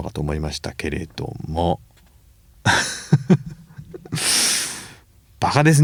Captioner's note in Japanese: 笑い